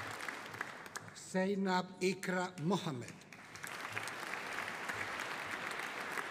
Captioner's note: audience applauding